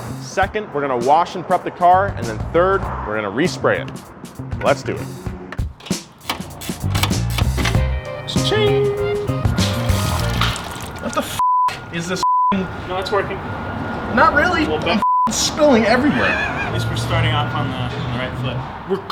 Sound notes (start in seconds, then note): 5.7 spanner clanking; 9.6 liquid poring; 11.3 beep; 15.0 beep; 15.8 laughing